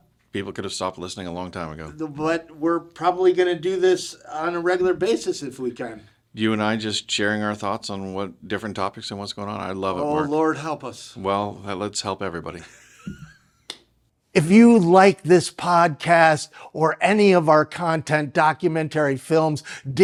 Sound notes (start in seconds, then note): 12.6 laughs